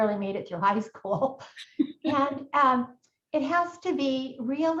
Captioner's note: chuckles